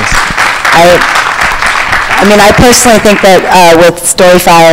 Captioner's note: applause